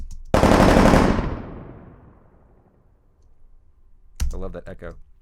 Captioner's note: gun fires multiple times